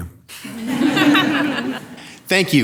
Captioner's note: audience laughing